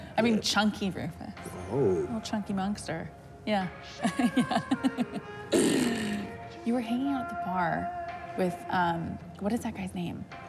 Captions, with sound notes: I mean chunky Rufus. Oh. Little chunky monster. Yeah. (laughs) Yeah. (Rufus blows raspberry) You were hanging out at the bar with um, what is that guy's name?